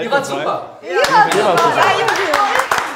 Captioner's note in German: Jubel, Applaus